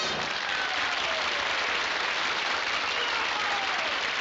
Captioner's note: applause